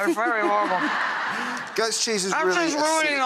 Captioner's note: audience laughing